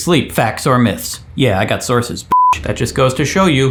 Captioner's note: beep